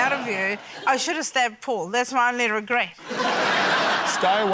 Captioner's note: laughter